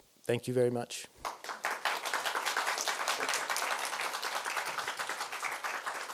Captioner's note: applause